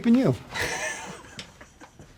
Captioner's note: laughing